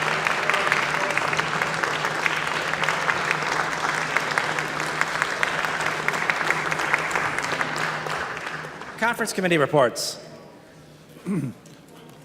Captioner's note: applause